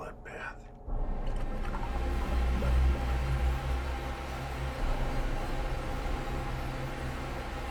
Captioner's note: tense music; water gurgling